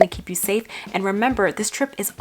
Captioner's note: bubble pops